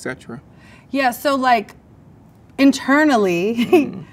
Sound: laughs

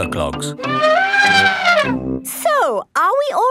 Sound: trumpeting

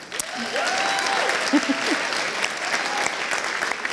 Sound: applauds

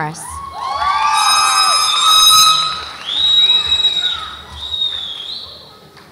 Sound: audience applauds and cheers

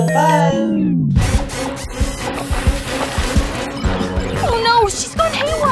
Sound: hectic clanking

